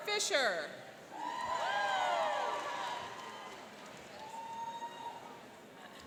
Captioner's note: cheering and applauding